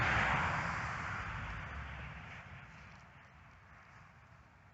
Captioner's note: car passing by, next to mainroad